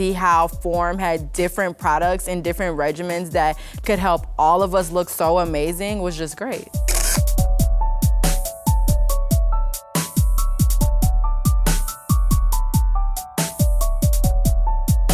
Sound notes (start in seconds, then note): 6.8 shutter clicking